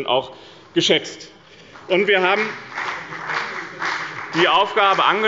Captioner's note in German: Beifall bei dem BÜNDNIS 90/DIE GRÜNEN und der CDU